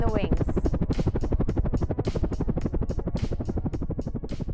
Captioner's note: blades whirring